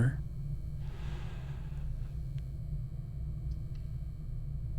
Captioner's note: sighs